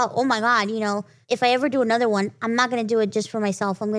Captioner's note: none